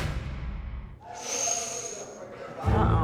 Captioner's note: inhales sharply